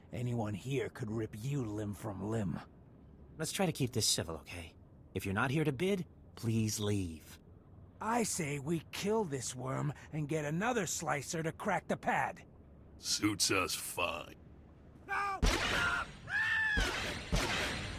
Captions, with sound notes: Anyone here could rip you limb from limb. - Let's try to keep this civil, okay? If you're not here to bid, please leave. - I say we kill this worm and get another slicer to crack the pad. - Suits us fine. - No, no, no, no. (screaming)